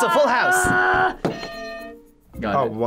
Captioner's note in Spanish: suena la campana